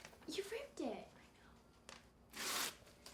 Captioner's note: whisper